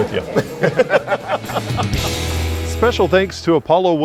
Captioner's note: both Laugh